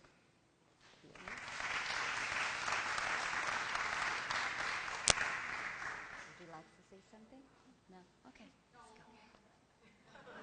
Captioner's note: applause and background discussion